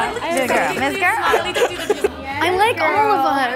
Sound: indistinct chatting

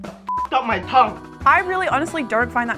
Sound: beep

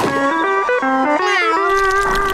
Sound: meowing

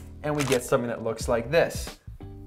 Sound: camera shutter clicks

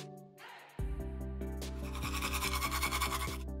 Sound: brushing teeth audio

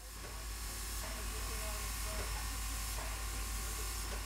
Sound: steam hissing

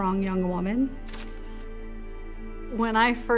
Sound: picture clicks

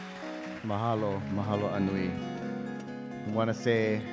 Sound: speaking in Hawaiian

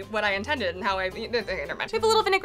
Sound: speaks gibberish

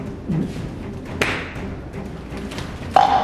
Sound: gagging; glass hitting counter

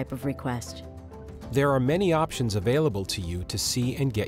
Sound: voiceover

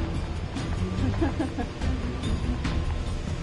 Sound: laughs

